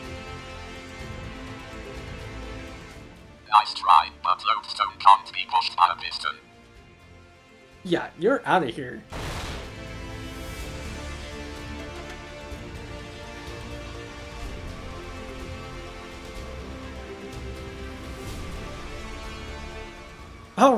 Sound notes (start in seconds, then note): 13.1 boom